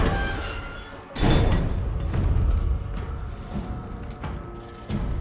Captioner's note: door opens